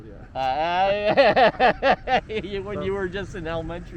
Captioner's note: laughing